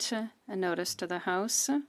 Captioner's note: speaking French